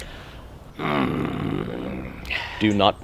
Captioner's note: grunts